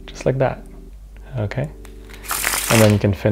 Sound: card shuffle

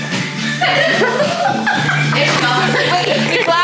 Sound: all laughing

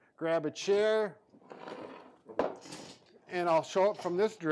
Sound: plastic chair clanging

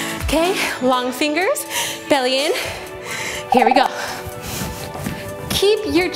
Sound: timer buzzing

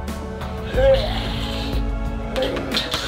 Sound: hairball heaving

